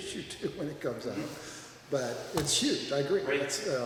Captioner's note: laughs